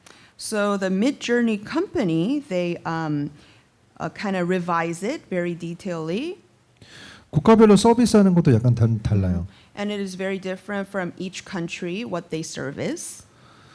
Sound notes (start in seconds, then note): 6.9 speaking korean